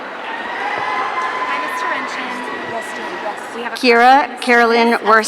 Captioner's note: audience cheering